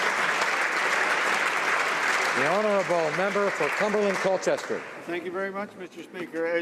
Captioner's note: applause